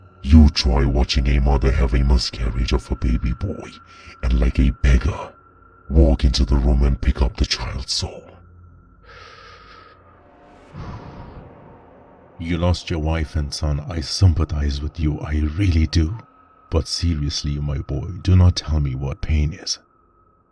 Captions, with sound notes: YOU TRY WATCHING A MOTHER HAVE A MISCARRIAGE OF HER BABY BOY AND LIKE A BEGGAR, WALK INTO THE ROOM AND PICK UP THE CHILD'S SOUL. (Death takes a deep breath to calm down) You lost your wife and son, I sympathize with you, I really do. But seriously, my boy, do not tell me what pain is.